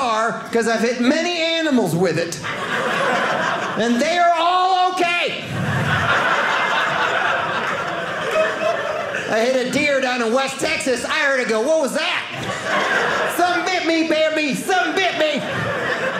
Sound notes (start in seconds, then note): 5.4 audience laughing